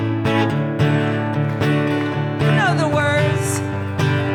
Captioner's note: audience claps